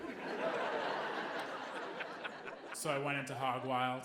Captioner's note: audience laughing